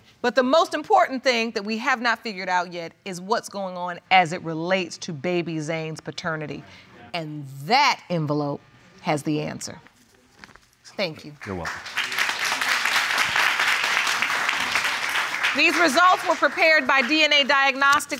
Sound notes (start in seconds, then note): 11.3 applause